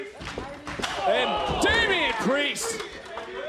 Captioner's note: crowd chatter